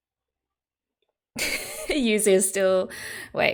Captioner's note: laughs